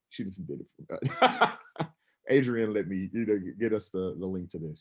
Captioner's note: laughs